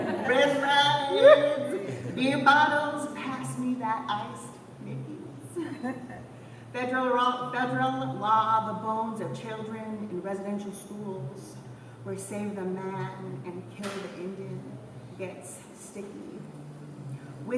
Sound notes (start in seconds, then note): 5.5 laughter